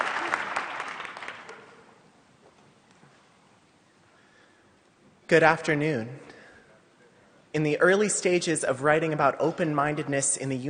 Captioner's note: applause